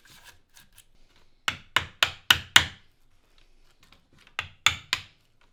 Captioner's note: hammer knocking